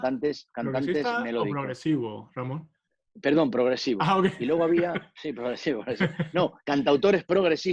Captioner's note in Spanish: risas